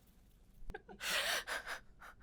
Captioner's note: chuckles